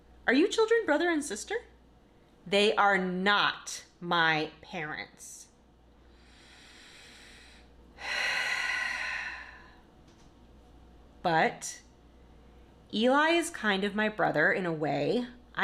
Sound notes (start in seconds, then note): 6.1 deep breath